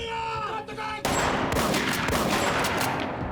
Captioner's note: gunshots